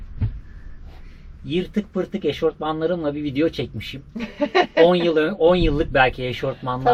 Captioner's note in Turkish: kahkaha